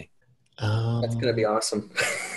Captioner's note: laughs